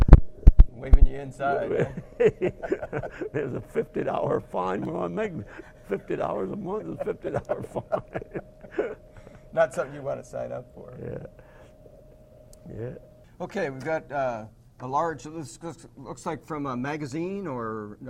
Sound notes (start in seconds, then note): 2.4 laugh; 7.9 both laugh